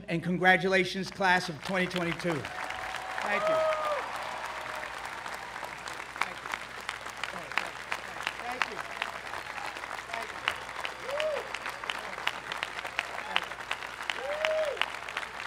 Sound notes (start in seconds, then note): 4.0 crowd applause; 5.0 crowd claps